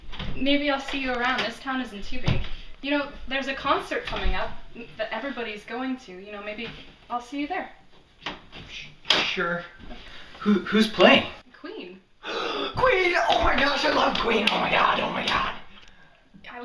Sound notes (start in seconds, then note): 12.2 Alex inhales sharply